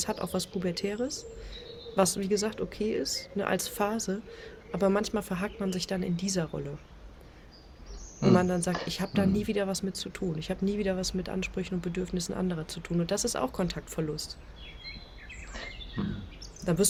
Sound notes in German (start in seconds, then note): 9.2 räuspern